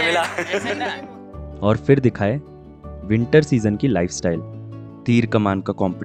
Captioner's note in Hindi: हंसी